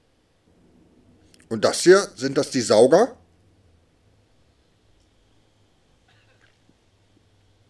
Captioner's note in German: Der Senner räuspert sich